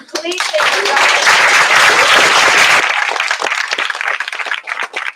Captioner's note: applause